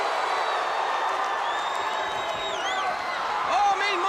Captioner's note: crowd cheering